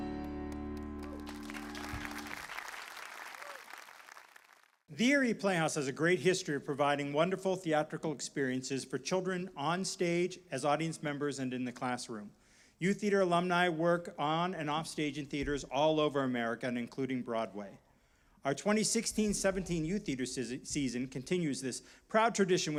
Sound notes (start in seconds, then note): 0.1 applause